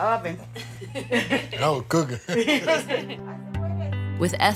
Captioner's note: laughter